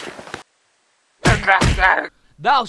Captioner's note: Jonathan crying in pain some more